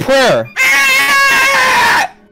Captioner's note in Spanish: ruidos infernales